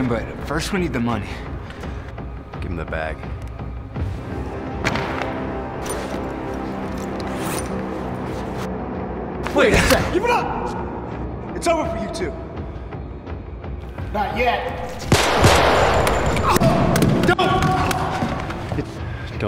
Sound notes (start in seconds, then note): 4.7 loud thud; 15.0 gunfire